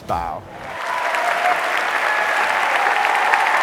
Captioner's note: cheering and applause